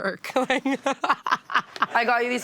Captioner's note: laughs